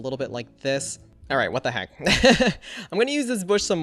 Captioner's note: laughs